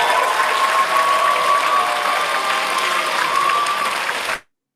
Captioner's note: audience clapping